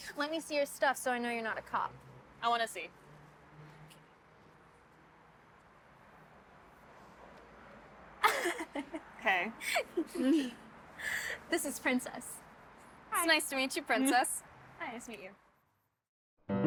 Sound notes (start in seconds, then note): 8.2 Sadie laughs; 16.4 cheerful music